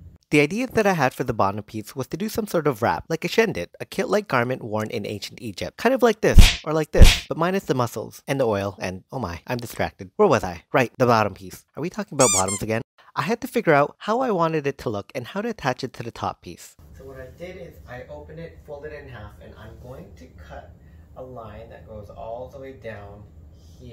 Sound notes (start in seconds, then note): 6.9 slap sound; 12.2 squeak sound